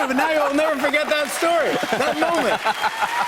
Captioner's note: cheers and applause